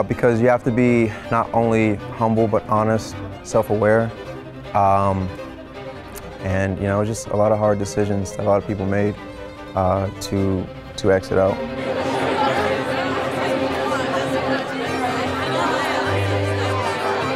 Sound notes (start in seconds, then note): 11.0 participants chattering; 11.5 tense dramatic music